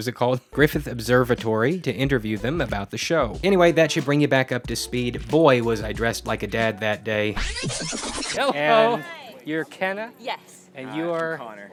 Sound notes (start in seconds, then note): 7.3 fast forward sound effect